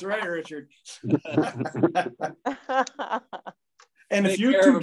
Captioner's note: people chuckling